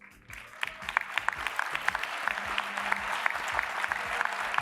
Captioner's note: applause